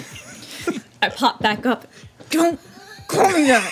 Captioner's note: laughing